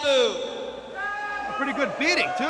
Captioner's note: crowd chatter